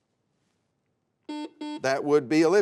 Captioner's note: buzzer sounds